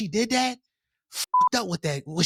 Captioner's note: beep